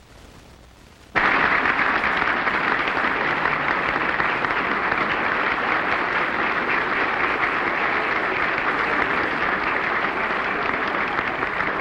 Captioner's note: applause